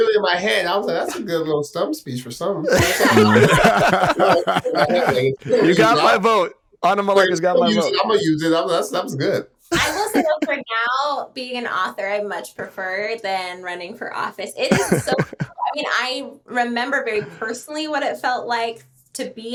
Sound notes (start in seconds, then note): 0.2 Justin laughing; 5.4 all laughing